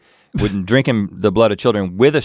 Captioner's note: Link chuckles